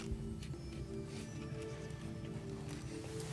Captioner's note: whispering